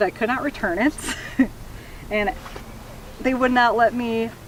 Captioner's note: laughs